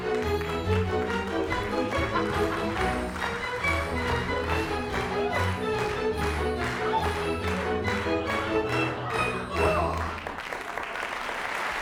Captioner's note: applause